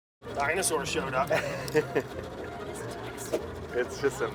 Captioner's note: chuckling